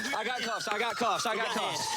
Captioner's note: beeps